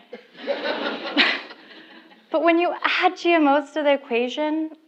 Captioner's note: laugh